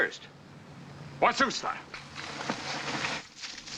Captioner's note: speaking native language